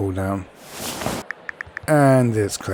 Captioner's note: phone tapping